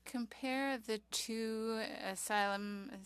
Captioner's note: speaking French